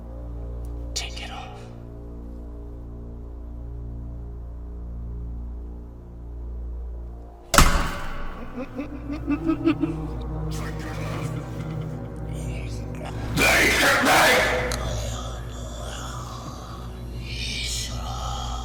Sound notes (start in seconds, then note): 7.5 slamming noise; 8.3 laughing; 14.8 mumbling